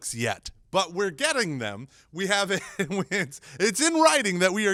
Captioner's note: laughs